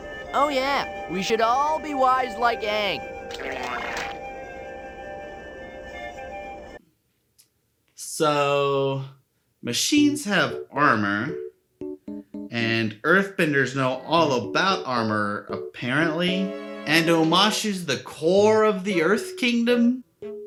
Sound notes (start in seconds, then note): 3.2 raspberry noise? Fart? I dunno, something obscene